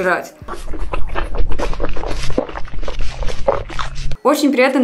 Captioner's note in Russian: Звук интенсивного поглощения еды